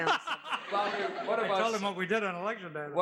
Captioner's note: laughs